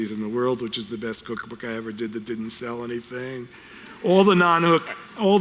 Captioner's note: audience chuckles